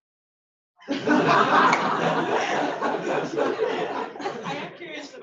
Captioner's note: laughter